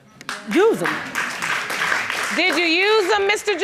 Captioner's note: applauding